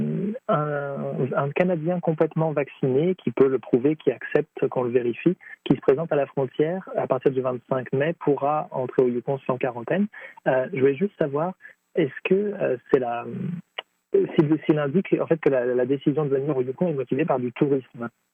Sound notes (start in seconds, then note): 3.8 speaking French